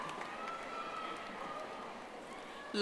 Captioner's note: audience applauding